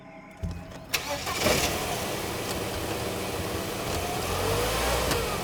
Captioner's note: engine starts